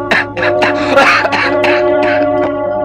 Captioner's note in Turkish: Öksürükler